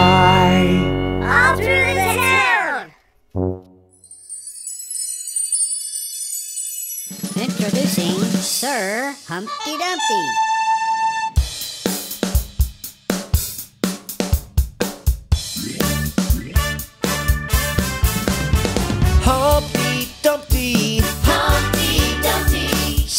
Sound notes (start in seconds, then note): 3.9 tinkling chimes; 11.2 energetic party music